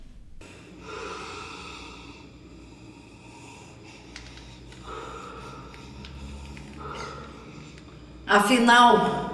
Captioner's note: wheezing